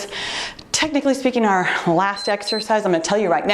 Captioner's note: timer beeps